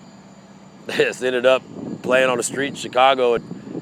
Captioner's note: chuckles